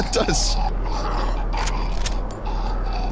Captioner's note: laughs; grunts